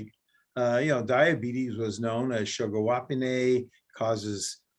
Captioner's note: speaks in indigenous language